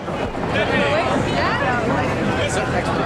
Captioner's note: woman speaking in a foreign language